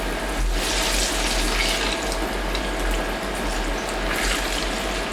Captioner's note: oil bubbling and sizzling